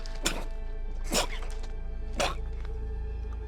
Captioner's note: Liam chocking